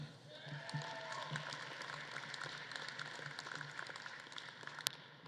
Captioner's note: audience claps and cheers